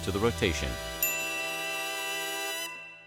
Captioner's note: bell dings